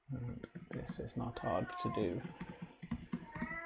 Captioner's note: cat meowing in the backround